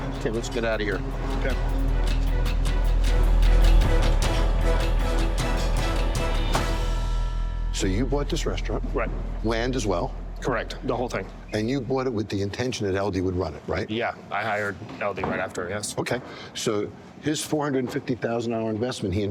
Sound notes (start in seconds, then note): 2.5 intense music; 5.8 door slams